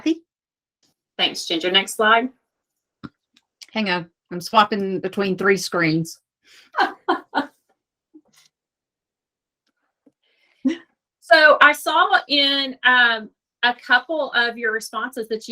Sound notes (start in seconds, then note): 6.7 laughs